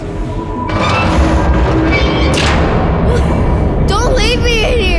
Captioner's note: sound of door slamming, echoeing; crying